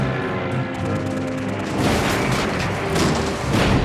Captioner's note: crash